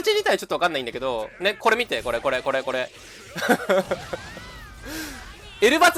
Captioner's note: laughter